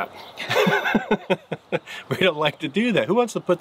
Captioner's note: laughs